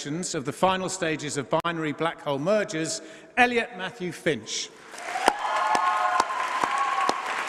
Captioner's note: applause